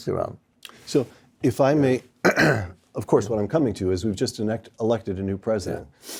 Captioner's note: cough